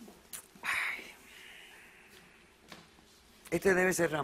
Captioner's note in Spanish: chasquea la lengua